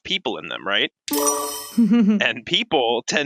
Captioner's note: chime